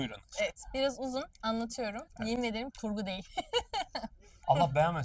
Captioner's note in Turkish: kahkaha